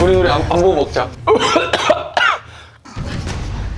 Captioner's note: cough cough